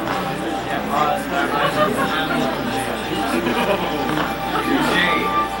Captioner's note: crowd chattering